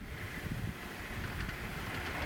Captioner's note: wind howling